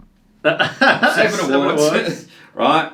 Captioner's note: laughs